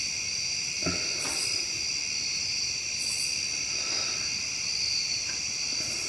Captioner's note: breathing uneasily